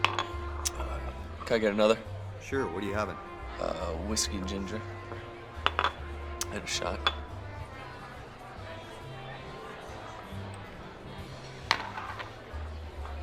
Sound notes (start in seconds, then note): 5.6 glass clanking; 8.8 crowd chattering over pleasant big band music